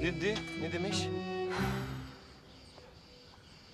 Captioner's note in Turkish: Nefes sesi